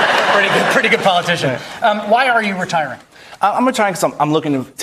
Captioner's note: cheering